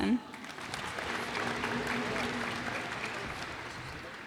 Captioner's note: cheers and applause